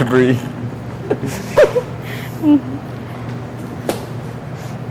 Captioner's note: student laughs